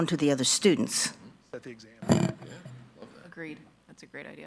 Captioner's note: indistinct conversation